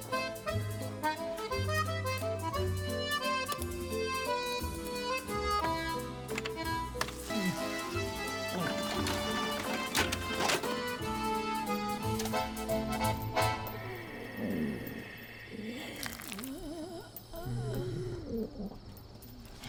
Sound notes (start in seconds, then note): 7.2 bucky gagging; 11.9 lips smacking; 13.6 zombies groaning; 15.3 ear squishing